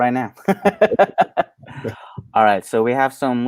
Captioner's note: laughing